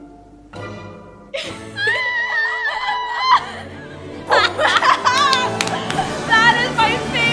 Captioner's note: laughs